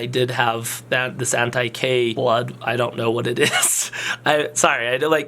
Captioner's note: laughs